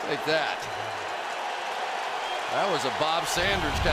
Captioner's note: cheering